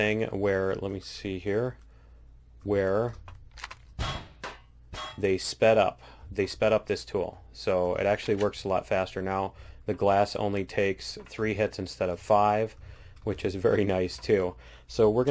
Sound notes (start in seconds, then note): 1.9 pinging